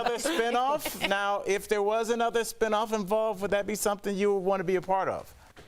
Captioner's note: laughter